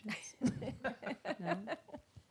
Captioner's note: laughing